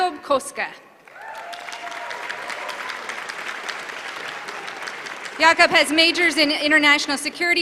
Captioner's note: applause